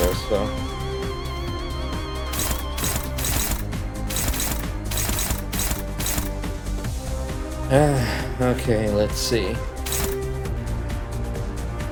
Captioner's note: sigh